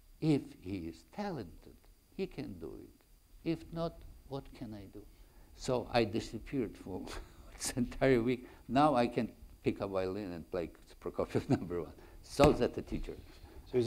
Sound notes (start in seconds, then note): 7.0 chuckle; 11.2 chuckles